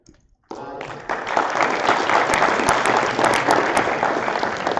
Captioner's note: applause